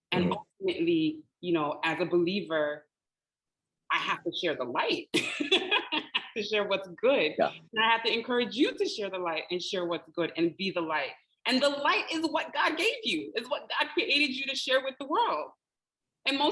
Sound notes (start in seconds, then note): 5.2 laughing